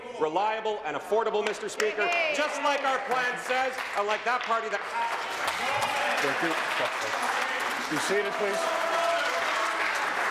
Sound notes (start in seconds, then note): 5.5 applause